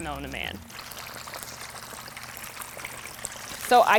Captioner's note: oil bubbles